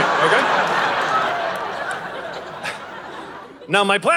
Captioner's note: audience laughing